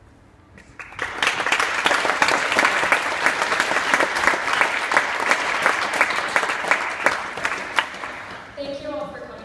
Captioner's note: clapping